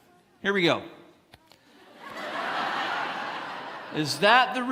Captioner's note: congregants laughing